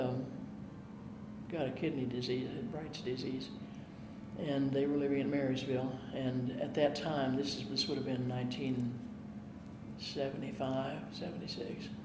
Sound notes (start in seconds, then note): none